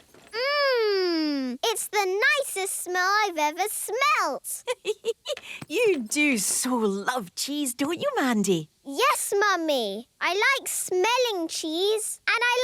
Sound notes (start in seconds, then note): 4.6 giggling